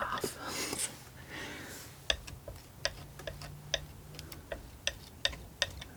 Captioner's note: tapping